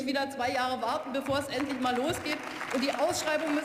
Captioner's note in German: Beifall